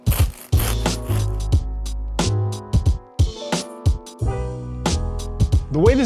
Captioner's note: knife rasping; gentle elegant music